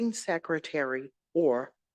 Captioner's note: none